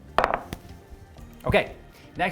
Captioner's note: bowl taps